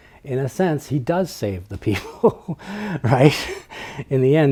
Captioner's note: laughs